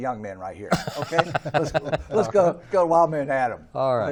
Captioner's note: group laughing